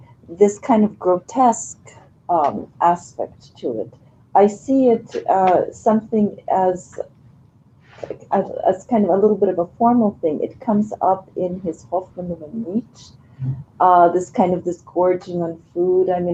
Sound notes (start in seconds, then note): 12.2 non-english speech